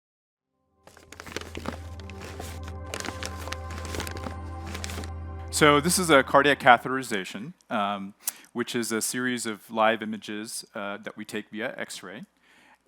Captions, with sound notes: (paper unfolds) - So this is a cardiac catheterization which is a series of live images that we take via x-ray.